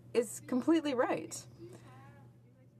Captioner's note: speaking French